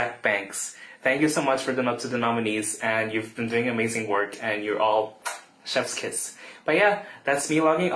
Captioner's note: kissing sound